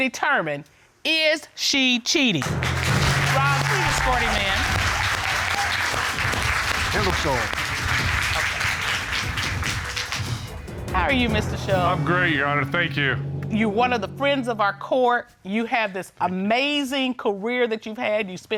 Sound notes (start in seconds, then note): 5.0 applause